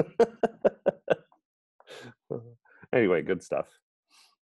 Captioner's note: laughter